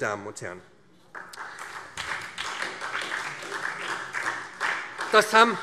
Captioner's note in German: Beifall SPD